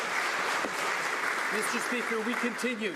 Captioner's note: some Applause